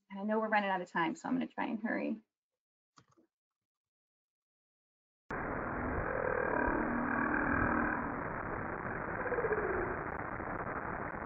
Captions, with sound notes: And I know we're running out of time, so I'm going to try and hurry. (whale singing)